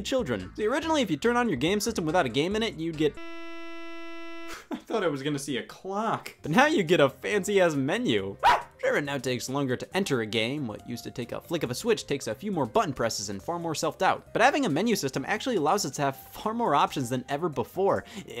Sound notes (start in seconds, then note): 3.2 high pitched static; 8.1 shouts